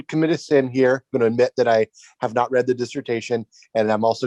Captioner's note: murmurs